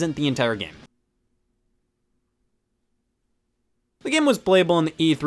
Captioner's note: awkward silence